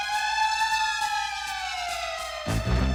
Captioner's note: siren